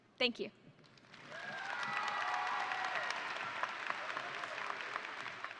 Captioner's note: audience cheering